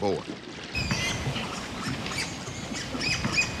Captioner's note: boar squealing